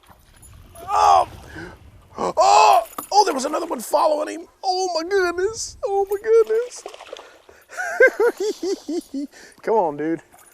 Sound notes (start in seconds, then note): 7.7 giggling